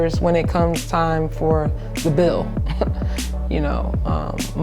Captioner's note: chuckling